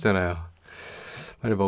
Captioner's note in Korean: 스읍